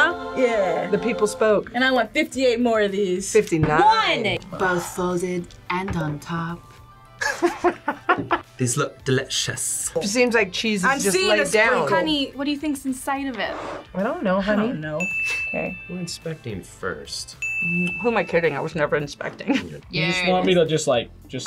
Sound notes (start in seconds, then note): 7.2 laughs